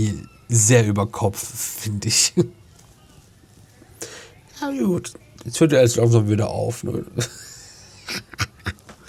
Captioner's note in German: gelächter